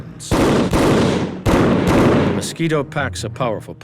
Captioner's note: gun firing